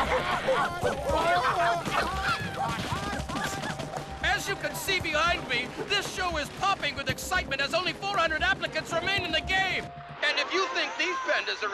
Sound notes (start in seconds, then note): 0.0 chuckling; 0.8 popping